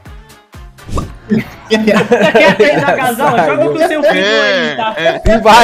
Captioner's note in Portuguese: risos